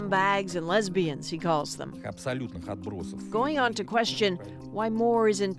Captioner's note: speaking alternate language